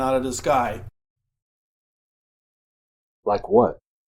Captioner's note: silence